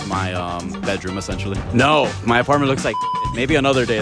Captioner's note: beep